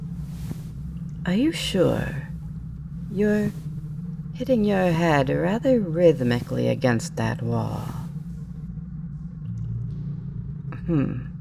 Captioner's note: thumping stops